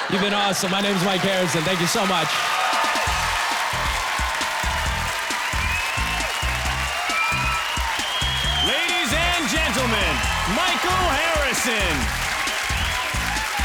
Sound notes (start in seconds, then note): 3.0 applause, cheering